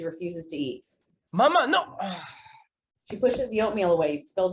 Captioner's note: sighs